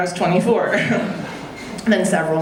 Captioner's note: audience laughing